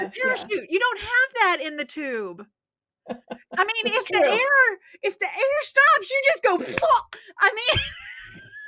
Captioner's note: thwap